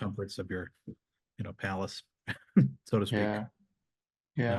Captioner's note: chuckles